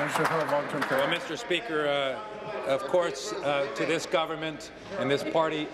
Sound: applause

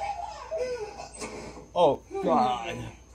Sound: door slams

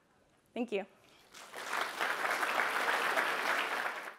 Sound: applause

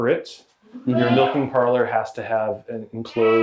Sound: goats bray

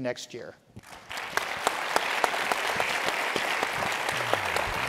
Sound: audience applauding

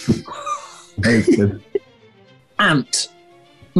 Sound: sniggering and giggling

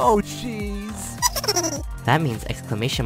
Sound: buddy cut boy giggles

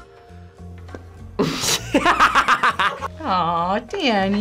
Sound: laughs

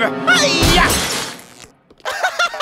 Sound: laughing giddily

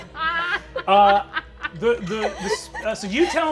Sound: laughing

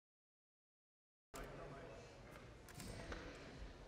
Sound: camera clicks

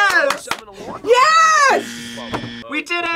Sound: buzzer

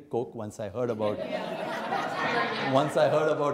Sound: laughter

